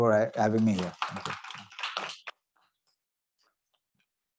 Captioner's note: applause